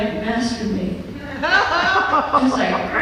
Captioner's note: laughter